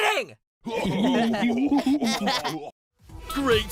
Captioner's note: laughing